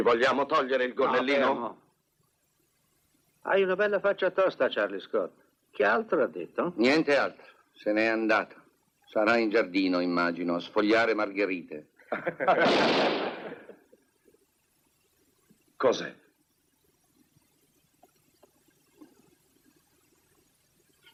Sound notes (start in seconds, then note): 12.6 gunshot